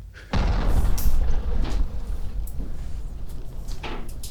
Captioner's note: bombs thundering